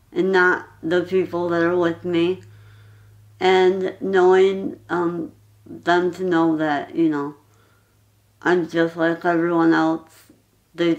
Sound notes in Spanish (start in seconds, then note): none